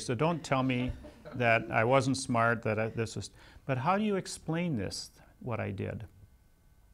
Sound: laughs

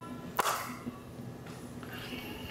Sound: pop

